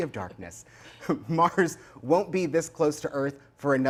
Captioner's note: chuckling